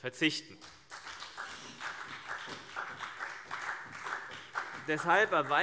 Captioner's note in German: Beifall CDU und BÜNDNIS 90/DIE GRÜNEN